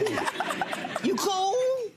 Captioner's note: audience laughing